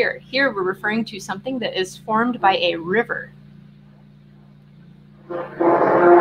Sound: loud noise

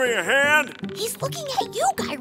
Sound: whispering

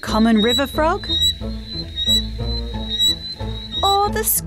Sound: frog whistles

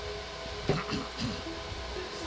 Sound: man clears throat; peaceful music

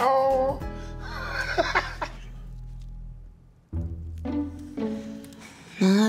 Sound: laughs

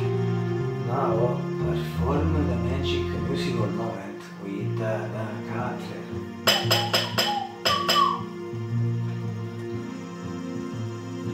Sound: whistle

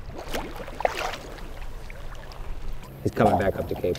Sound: water bubbling

